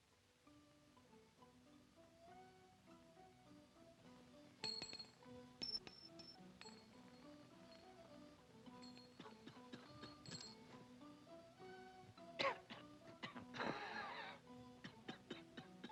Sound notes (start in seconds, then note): 4.6 coin clanks; 12.3 coughs